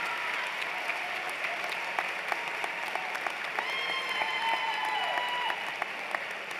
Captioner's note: cheers and Applause